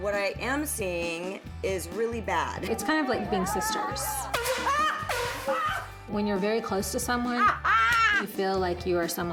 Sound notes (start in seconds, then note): 5.0 air-horn blast